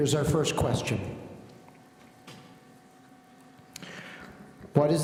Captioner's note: none